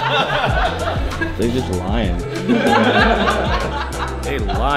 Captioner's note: Laughs